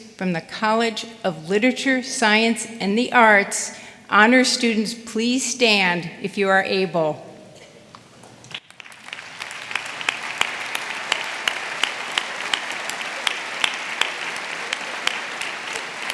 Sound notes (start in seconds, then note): 8.4 audience applauding